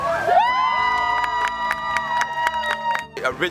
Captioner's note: cheering